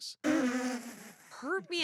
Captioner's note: laughs